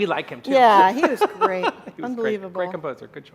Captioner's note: laughing